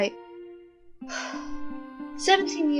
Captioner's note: sigh